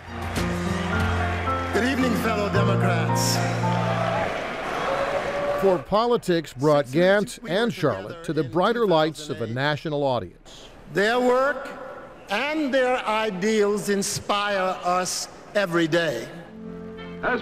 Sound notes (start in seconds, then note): 0.0 upbeat music; 4.1 crowd